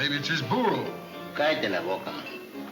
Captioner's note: Pancho in foreign language